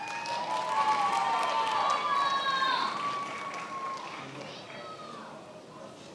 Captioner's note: attendees applauding and cheering